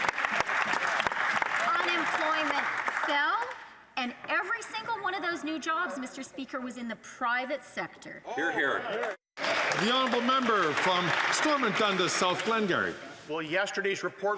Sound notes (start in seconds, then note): 2.1 some Applause